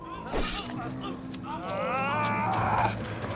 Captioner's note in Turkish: Bağırıyor